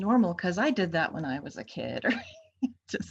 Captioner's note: chuckles